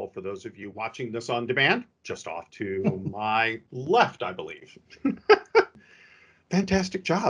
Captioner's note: laughs